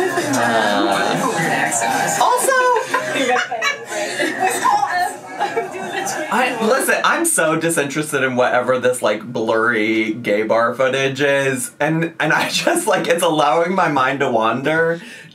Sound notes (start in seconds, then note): 3.9 laughing